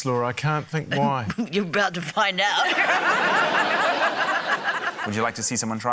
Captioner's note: chuckles; laughter